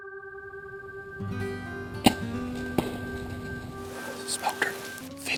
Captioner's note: whispering